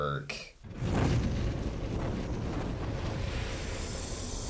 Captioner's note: logo whooshing